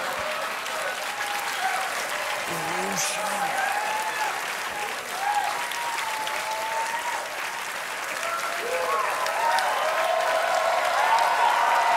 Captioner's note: applause; cheers